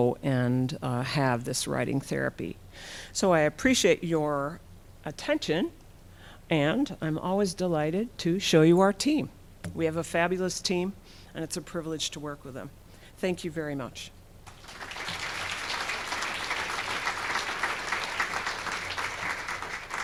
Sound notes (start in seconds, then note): 14.4 audience clapping